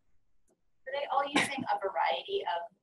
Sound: voiceover

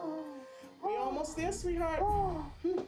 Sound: moaning

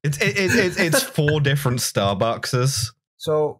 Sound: laughter

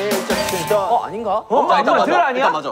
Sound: ding

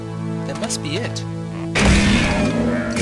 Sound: pots breaking

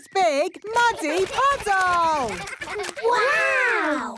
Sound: splashing

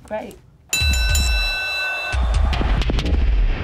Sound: bell rings

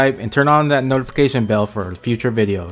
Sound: bell rings

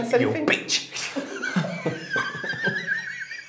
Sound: A spirit talking through

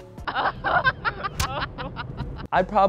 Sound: laughing

